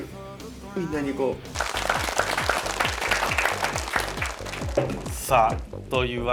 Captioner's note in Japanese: mc一同拍手